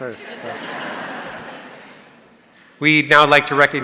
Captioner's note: audience laughing